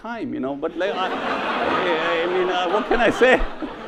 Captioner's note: audience laughs